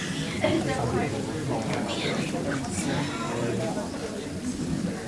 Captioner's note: crowd talking indistinctly